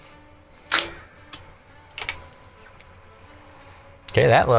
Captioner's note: clicking